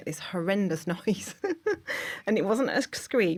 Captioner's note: laughter